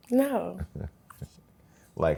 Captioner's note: laughs